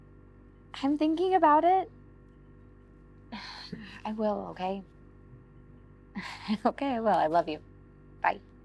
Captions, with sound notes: I'm thinking about it. (sighs) I will, okay? (laughs) Okay, I will. I love you, bye.